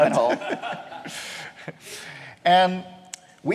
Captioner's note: laughter